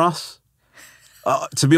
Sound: laughing

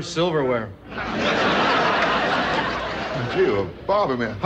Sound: audience laughing

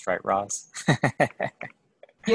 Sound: chuckle

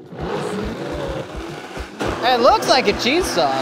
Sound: blender blending

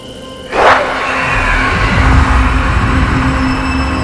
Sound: demonic growl

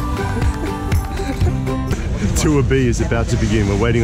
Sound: laughing

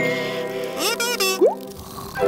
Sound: buzzes

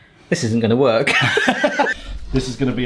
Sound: they laugh

